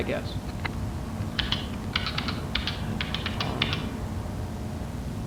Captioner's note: typing